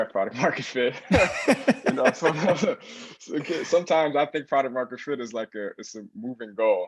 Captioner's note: laugh